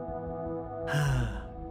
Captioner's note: Zahn Sigh